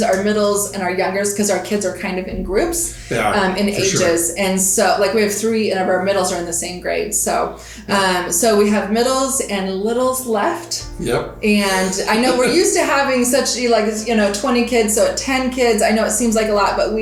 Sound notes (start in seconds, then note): 11.7 chuckling